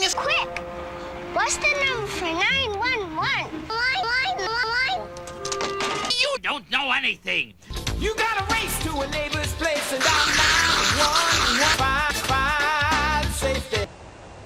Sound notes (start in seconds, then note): 3.6 confused baby noises; 9.8 more sucking noises